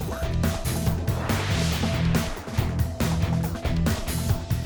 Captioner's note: upbeat music; screen whooshes; upbeat music